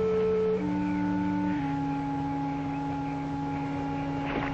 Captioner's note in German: lacht